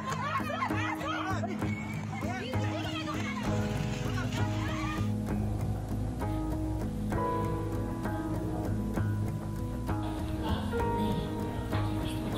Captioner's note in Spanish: bullicio